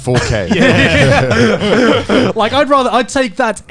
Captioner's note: hosts laughing